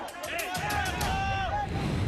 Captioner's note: screaming